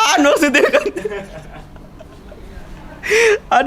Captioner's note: laughing languidly